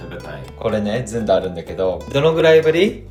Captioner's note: laughs